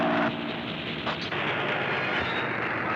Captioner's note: clicks; engine slowing